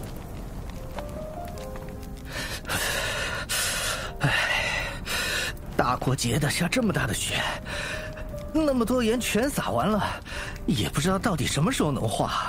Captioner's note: sigh